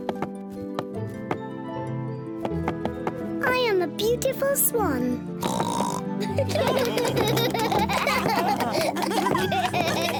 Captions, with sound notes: I am a beautiful swan. (OINKS) (ALL APPLAUSE AND LAUGH)